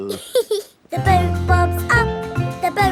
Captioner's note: giggles